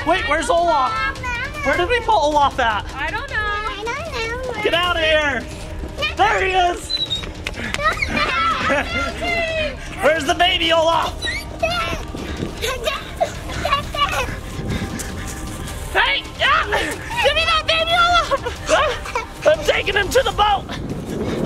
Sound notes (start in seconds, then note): 7.8 screaming; 11.4 screaming